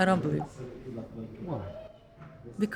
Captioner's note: voiceover